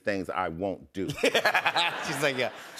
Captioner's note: laughs